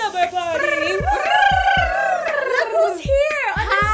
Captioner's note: cheering